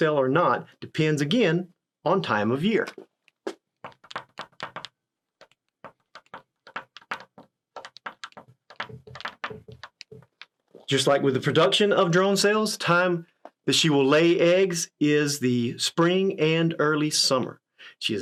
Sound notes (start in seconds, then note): 3.8 pen tapping